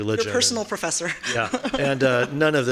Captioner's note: laughing